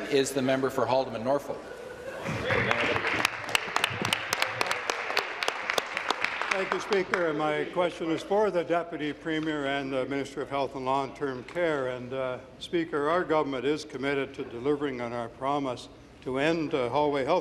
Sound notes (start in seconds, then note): 6.0 applause